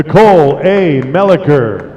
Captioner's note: applause